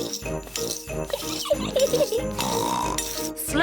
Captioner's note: giggles and snorts